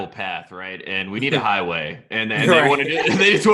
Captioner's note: chuckles